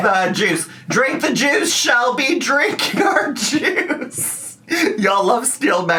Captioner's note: laughs